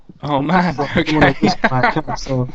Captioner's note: laughs